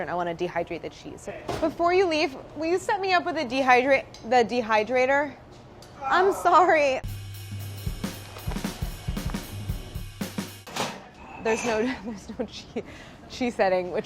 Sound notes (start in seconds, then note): 6.0 sigh of annoyance; 7.0 percussion music; 11.5 laughing